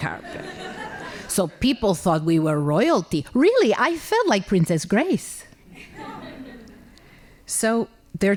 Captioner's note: laughing; laughing